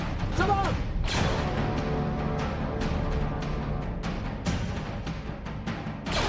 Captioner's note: blaster fires